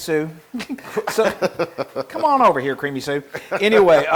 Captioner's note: laugh